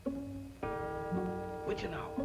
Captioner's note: clock chimes